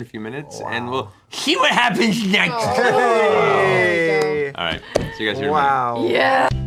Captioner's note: Victor voice; normal voice